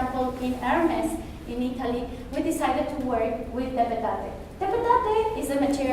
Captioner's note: spanish